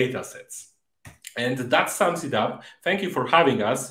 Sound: mouse clicking

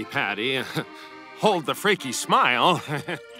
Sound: chuckles

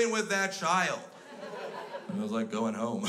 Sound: crowd laughs

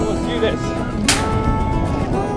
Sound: hand clap sound

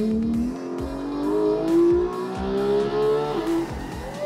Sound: engine revs

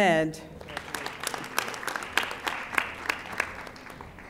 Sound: audience applauding

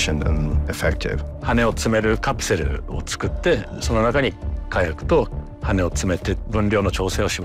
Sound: speaking in japanese

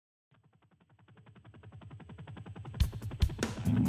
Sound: helicopter blades whirring; upbeat rock music

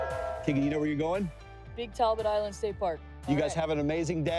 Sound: cheers

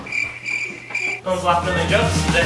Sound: crickets

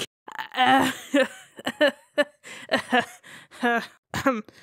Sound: awkward laughter

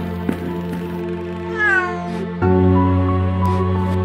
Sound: cat meows

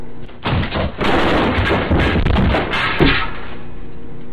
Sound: crash

